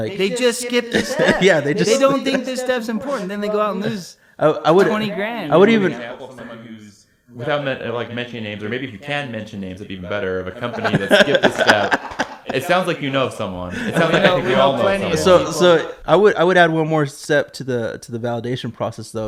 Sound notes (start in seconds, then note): 0.3 laughing; 13.6 laughing